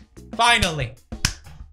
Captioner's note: clapping